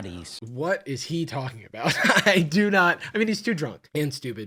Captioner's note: laughs